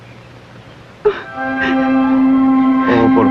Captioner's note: sobbing